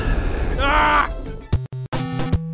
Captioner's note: frustration scream